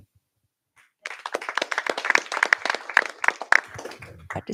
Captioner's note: applause